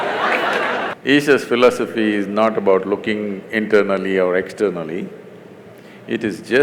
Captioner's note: laughs; laughter/Applause